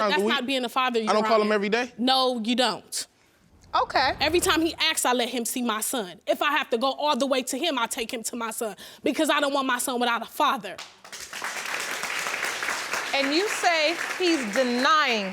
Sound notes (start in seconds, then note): 10.7 audience clapping